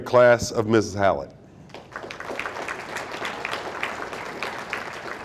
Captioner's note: audience applauding